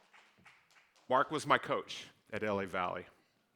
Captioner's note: clapping